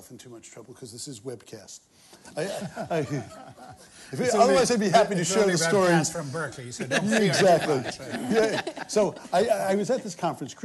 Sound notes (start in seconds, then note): 2.4 laughter